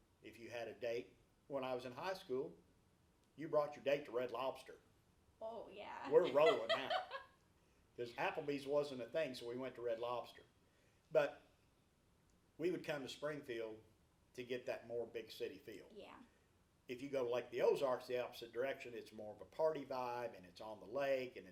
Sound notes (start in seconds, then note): 5.9 laughs